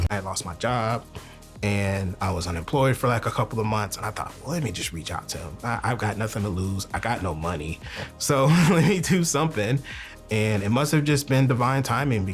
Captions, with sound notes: - I lost my job, and I was unemployed for, like, a couple of months, and I thought, "Let me just reach out to him." I've got nothing to lose. I got no money. So, (laughs) let me do something. And it must have just been divine timing